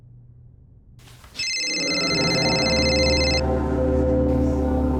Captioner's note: ringing continues